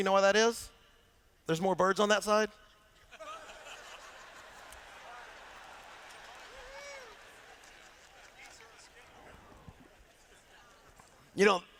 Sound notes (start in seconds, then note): 3.0 laughter